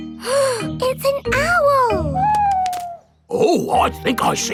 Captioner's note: gasps